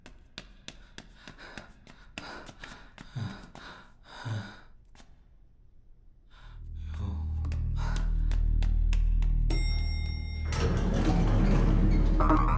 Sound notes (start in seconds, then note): 0.3 sighs; 6.3 sighs